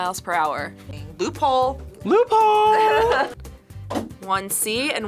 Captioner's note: laughs